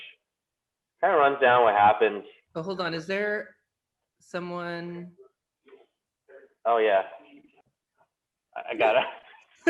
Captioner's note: laughter